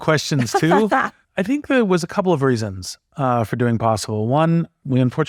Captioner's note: laugh